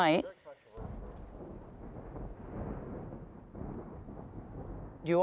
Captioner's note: thunder rolling